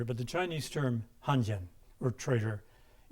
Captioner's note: speaking in a foreign language